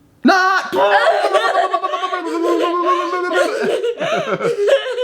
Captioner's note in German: macht alberne Geräusche